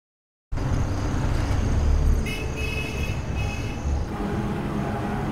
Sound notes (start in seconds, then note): 0.5 street ambience